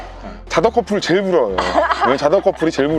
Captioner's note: laughter